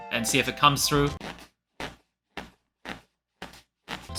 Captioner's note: squeaking Noise